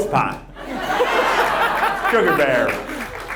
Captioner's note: audience laughs